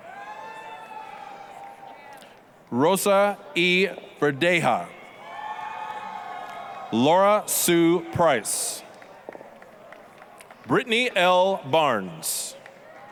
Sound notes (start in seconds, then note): 0.2 applause, cheering; 5.3 applause, cheering; 8.6 applause